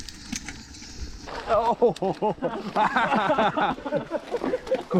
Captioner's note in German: Lachen